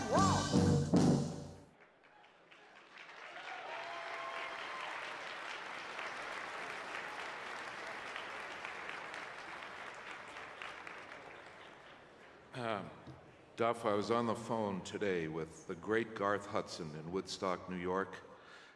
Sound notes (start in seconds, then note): 6.0 applause